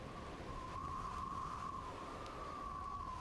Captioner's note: wind whistling